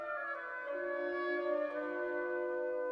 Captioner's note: none